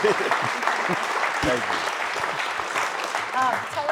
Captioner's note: applause